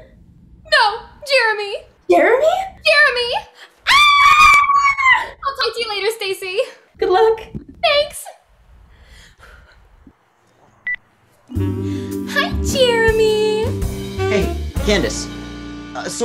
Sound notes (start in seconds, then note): 3.8 both scream